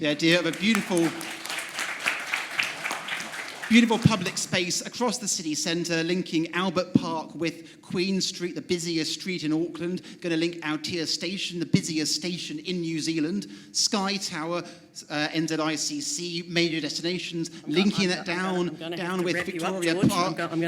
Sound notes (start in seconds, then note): 0.1 applause